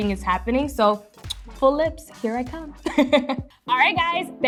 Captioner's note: smooches; laughs; speaking foreign language